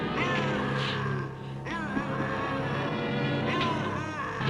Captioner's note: Popoca growling